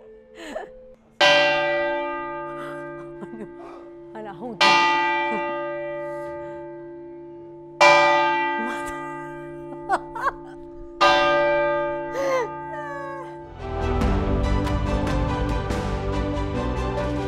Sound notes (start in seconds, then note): 1.2 loud chiming; 8.5 laughs; 13.5 uplifting music